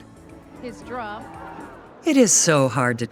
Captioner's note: audience cheering